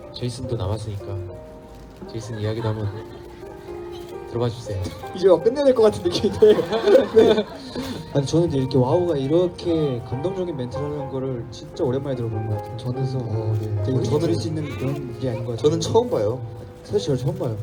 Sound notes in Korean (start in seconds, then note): 6.0 웃음